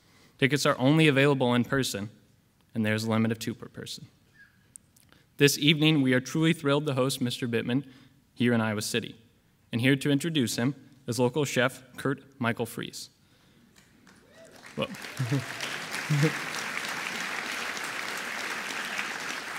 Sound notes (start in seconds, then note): 14.0 audience applauding